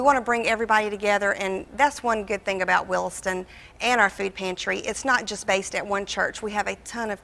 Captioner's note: none